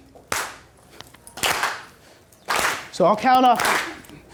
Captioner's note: clapping